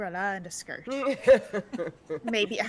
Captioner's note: people laughing